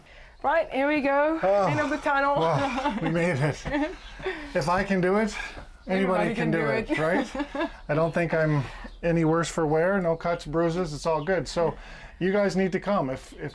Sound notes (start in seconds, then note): 3.7 laughter; 4.1 sighing